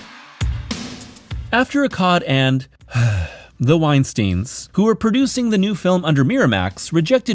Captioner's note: sigh